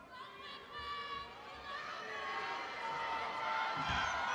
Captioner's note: crowd cheering